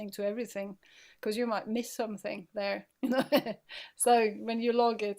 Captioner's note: laughing